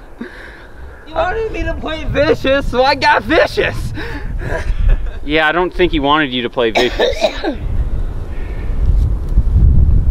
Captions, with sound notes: He WANTED me to get vicious, He WANTED me to get vicious, He WANTED me to get vicious, so I got vicious! so I got vicious! so I got vicious! Yeah, I don't think he wanted you to play vicious, Yeah, I don't think he wanted you to play vicious, Yeah, I don't think he wanted you to play vicious, [coughing] [coughing] [coughing]